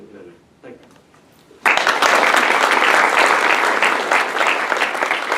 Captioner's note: applause